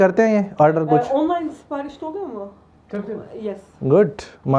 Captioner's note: Turkish